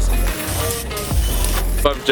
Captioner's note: spray can hissing